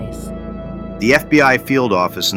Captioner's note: excited